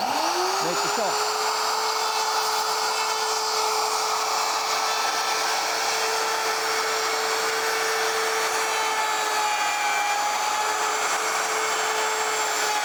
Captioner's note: router whirs